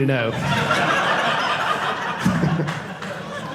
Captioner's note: audience laughing